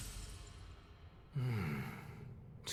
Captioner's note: nonverbal grunt as interjection